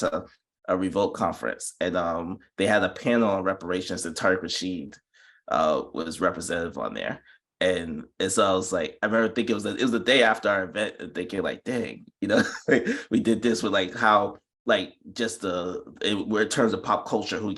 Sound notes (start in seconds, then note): 12.2 chuckles